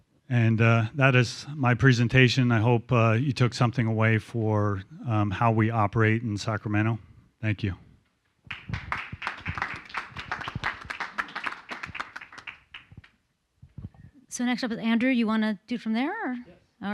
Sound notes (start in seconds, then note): 8.4 applause